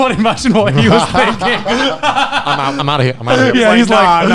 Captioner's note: laughing